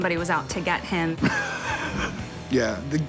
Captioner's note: laughs